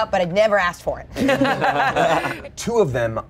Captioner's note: everyone laughs